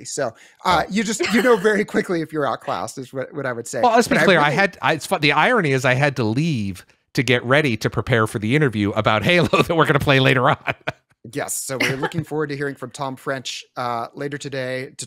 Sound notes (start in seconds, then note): 10.2 laughs